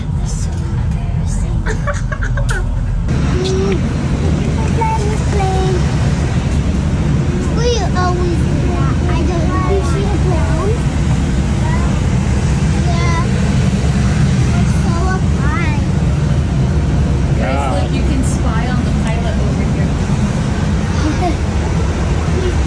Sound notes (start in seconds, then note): 1.6 laughs